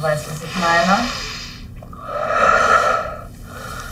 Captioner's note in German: Tiefes Ein- und Ausatmen